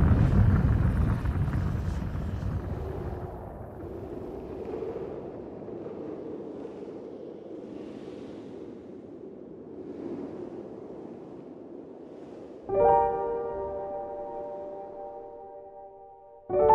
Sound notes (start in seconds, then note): 2.4 wind howling; 12.7 solo piano